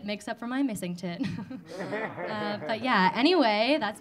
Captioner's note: audience laughing